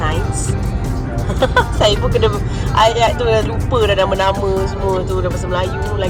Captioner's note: laugh